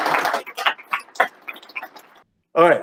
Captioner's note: laughter